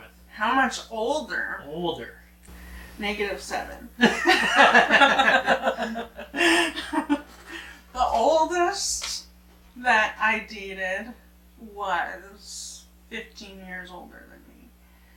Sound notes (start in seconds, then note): 4.0 both laughing